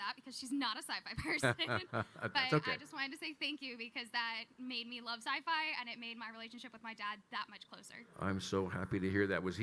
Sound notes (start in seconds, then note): 1.2 Kyle laughing